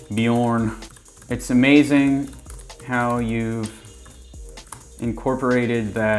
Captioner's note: keyboard typing